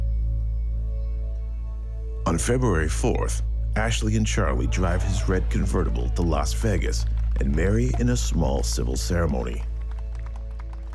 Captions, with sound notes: and marry in a small civil ceremony. (people applauding) - Well, Ashley was still very young when she decided to marry Charlie,